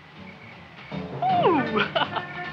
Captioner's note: laughs